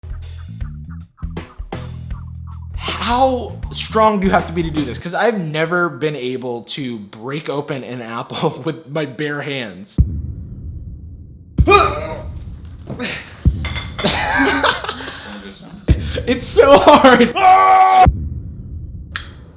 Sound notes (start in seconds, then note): 0.0 jazz blues music; 11.7 grunts; 13.9 laughs; 17.1 screams